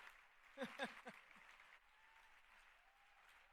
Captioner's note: cheering; laughter